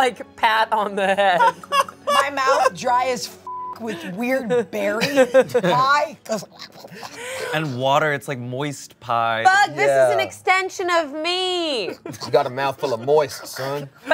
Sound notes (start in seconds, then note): 1.0 laughs; 3.4 beep